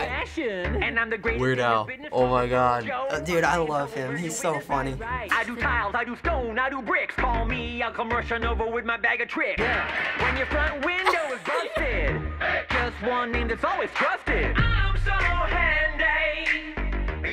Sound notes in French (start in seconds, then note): 11.0 Rire